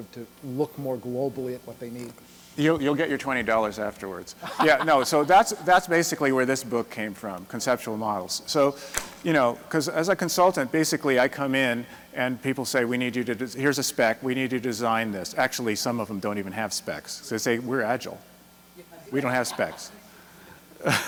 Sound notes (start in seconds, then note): 4.4 laughter